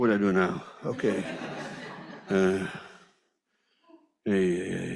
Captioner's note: audience laughs